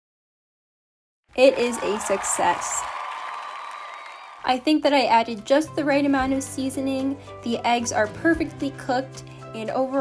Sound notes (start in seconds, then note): 1.4 clapping and cheering sounds